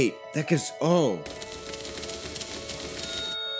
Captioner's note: furious typing